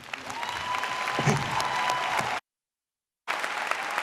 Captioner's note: audience applauding